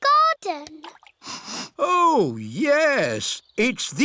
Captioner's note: sniffs